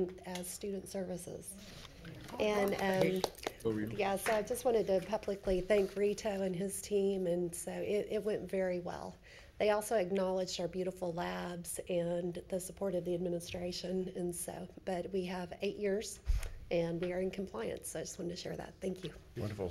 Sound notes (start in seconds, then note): 2.2 hands clap